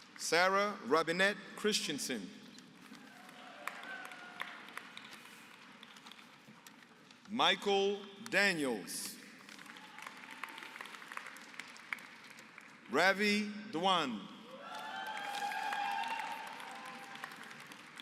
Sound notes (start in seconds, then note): 2.9 applause; 9.2 applause; 14.5 applause